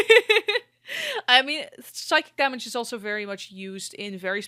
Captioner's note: laughter